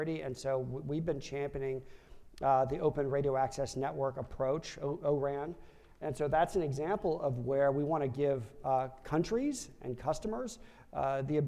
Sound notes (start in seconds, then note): none